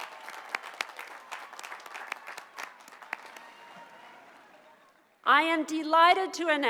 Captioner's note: applause